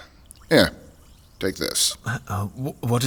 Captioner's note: sounds of drink fizzing